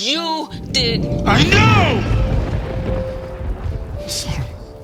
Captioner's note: lightning cracks